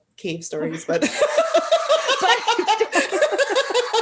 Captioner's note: laughter